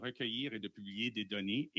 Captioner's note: speaking French